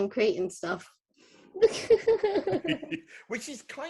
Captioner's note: laughing